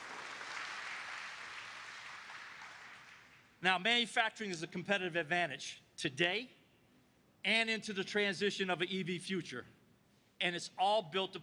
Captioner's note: applause